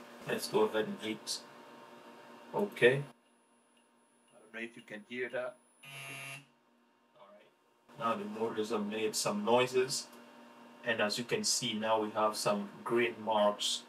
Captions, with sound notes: Let's go ahead and hit okay. I don't know if you can hear that. (buzzer buzzing) All right, now the motor has made some noises. And as you can see, now we have some green marks.